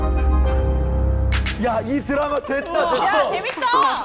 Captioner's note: Sound effect of Season 1 ending